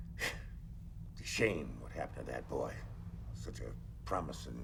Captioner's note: exhales sharply